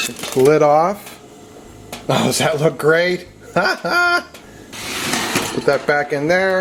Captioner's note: laughs